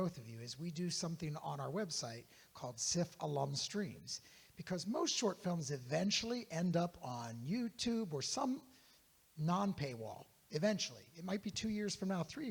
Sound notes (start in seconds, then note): none